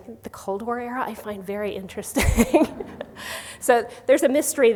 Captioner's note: laughs